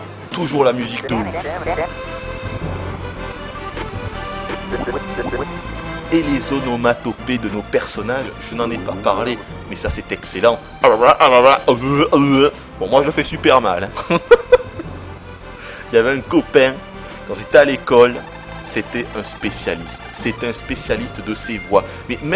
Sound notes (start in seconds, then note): 10.8 imitates the voices; 13.9 laughs